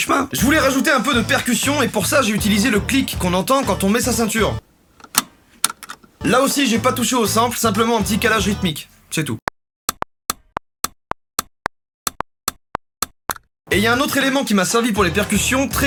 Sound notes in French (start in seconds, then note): 5.0 Son du clic de la ceinture